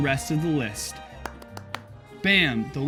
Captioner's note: claps